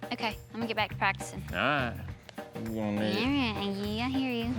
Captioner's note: grumbling